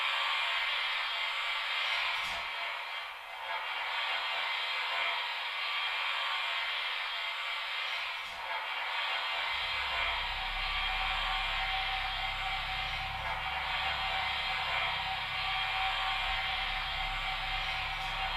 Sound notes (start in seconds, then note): 3.2 static hissing continues; 9.2 gentle eerie music; 9.6 static hissing